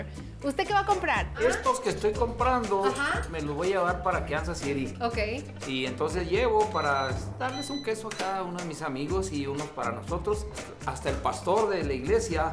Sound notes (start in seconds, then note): 0.2 both speaking Spanish; 5.4 man speaking Spanish